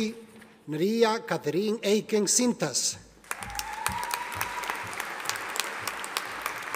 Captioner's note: audience applauding